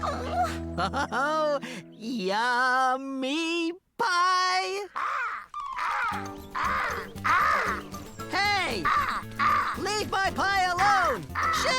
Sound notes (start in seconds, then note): 4.9 cawing